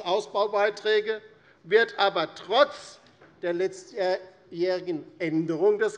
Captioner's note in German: none